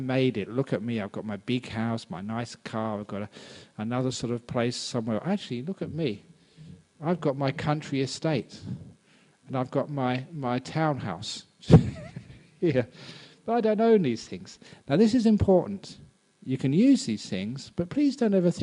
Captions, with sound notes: You think "I've made it!" Look at me, I got my big house, nice car, I got another place somewhere. Look at me; I got my country estate And I got my townhouse! (laughs) I don't own these things. Now this is important; you can use these things